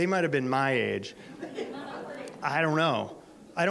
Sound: audience laughter

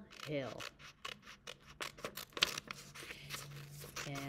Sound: cutting paper

